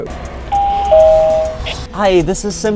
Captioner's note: bell ringing